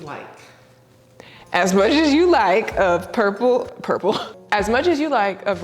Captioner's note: laughs